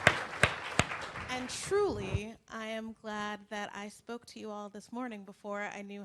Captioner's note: applause